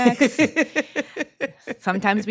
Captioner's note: laughs